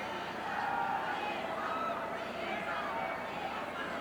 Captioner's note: crowd chattering